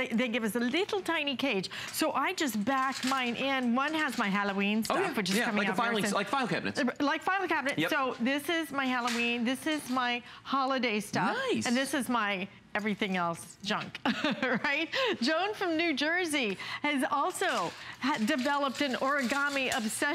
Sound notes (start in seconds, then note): 14.0 laughter